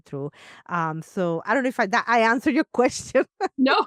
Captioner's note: laughs